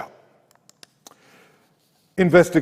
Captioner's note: mouse clicks